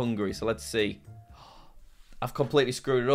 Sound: gasps

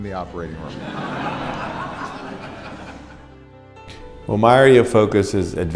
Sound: audience laughs

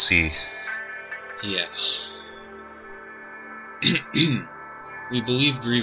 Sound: clears Throat

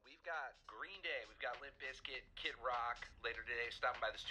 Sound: TV host speaking

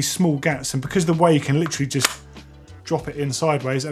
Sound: magnet clicks

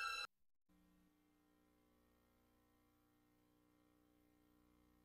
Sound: silence

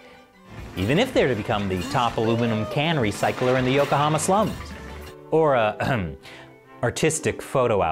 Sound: ahem

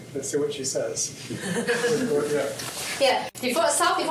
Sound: chuckles

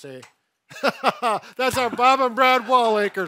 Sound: laughs

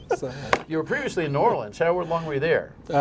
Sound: laughter

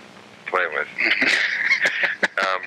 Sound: laughing

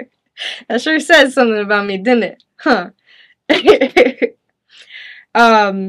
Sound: chuckles

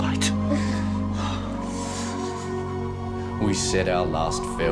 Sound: wind blowing

